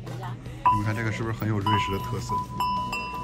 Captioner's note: cow bells